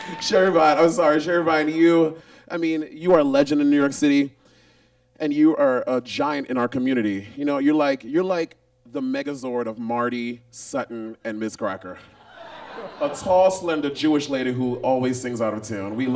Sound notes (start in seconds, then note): 0.0 audience cheers and claps; 12.2 audience laughs